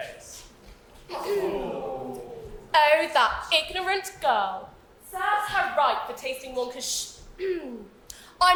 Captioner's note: clears throat; clears throat again